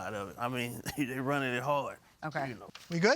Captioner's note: chuckles